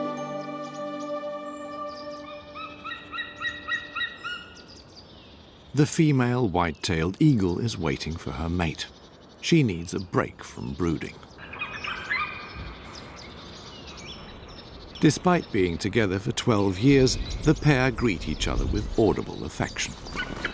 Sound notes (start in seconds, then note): 2.5 eagle caws; 11.3 eagle calls; 19.7 eagle calls